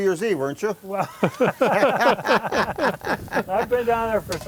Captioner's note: laughing